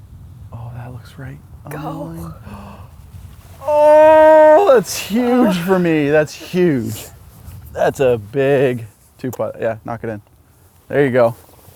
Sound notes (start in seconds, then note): 3.6 groans